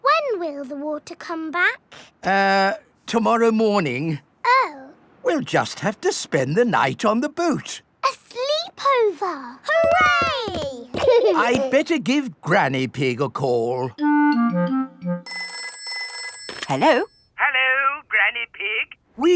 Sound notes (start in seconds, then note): 15.2 telephone ringing